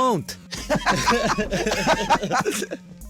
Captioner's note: laughs